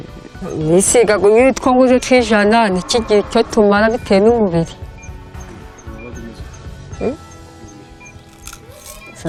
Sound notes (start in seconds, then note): 0.5 speaking in Kinyarwanda